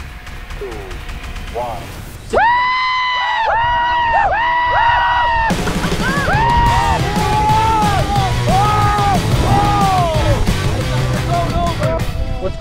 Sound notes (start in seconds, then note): 2.5 men cheer